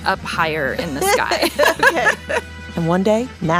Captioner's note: laughs